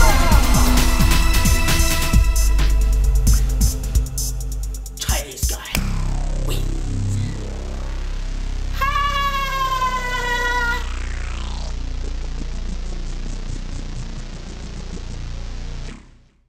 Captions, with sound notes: Chinese guy wins. [laughing]